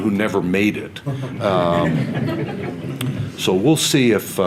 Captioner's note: audience laughter